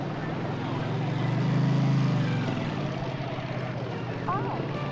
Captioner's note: motorcycle engine revving